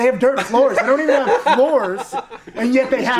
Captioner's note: all laughing loudly